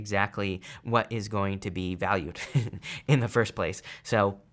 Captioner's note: chuckles